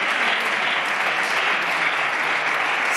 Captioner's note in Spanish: Aplausos